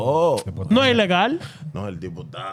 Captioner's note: speaking In Foreign Language